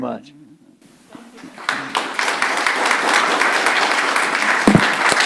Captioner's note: audience applauding